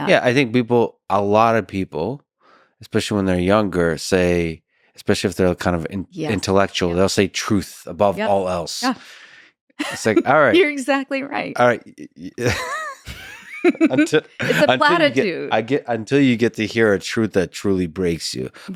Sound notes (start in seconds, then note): 12.4 both laughing